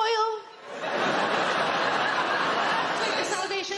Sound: audience laughing

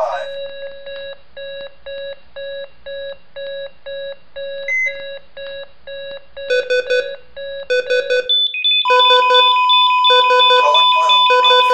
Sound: more medical devices beeping

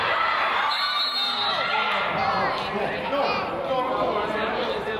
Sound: whistle blows

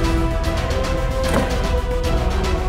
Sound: door closing

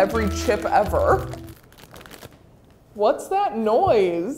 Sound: paper crackling

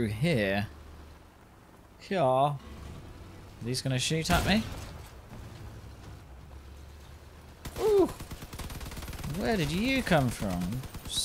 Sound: weird accent

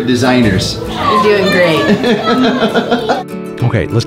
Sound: laughs

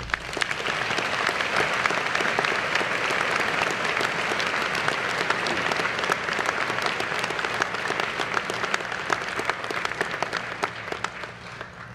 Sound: applause

